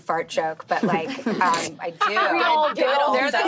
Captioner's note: laughing